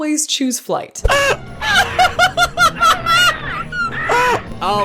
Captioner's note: laughs